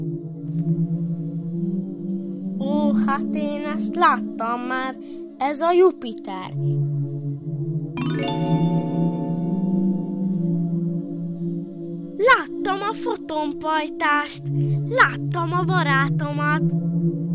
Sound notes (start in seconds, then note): 8.0 miracle sound